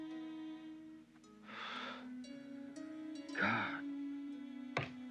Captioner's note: sighs